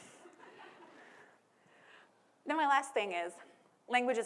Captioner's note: people laughing